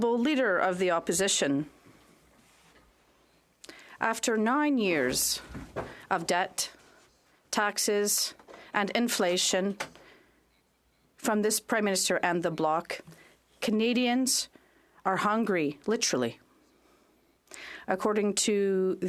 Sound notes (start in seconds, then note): 2.2 speaking French